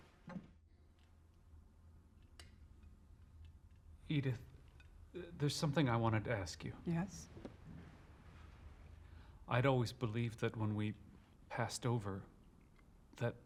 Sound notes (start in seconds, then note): none